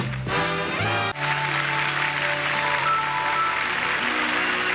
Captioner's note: crowd applauding